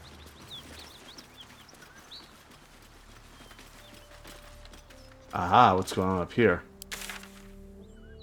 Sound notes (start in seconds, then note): 0.5 silence